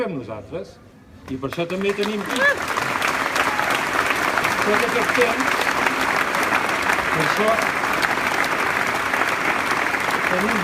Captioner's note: applause